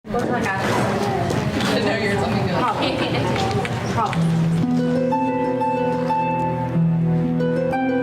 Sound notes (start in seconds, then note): 0.1 women talking in background; 4.4 dramatic music